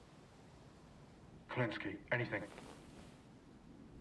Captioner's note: radio